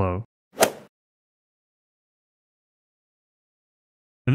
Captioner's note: golf ball hit sound effect